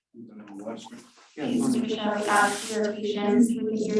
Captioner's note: people murmuring